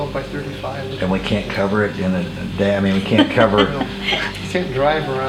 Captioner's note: laughing